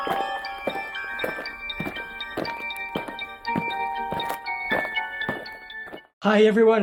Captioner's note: eerie music; aliens marching